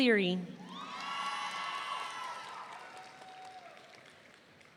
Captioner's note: audience cheering